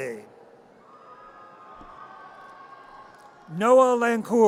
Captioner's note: audience cheers